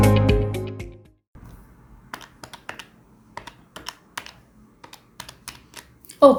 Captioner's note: calculator clicking